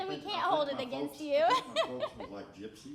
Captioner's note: laughing